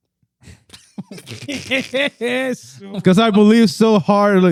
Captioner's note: laughing